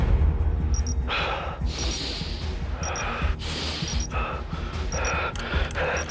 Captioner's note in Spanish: Bip repetitivo